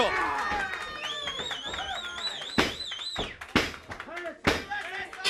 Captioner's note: crowd cheering; crowd chatter